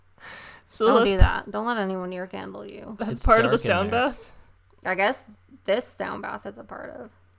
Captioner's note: laughs